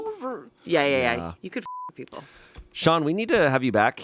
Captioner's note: beep